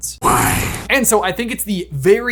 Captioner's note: growls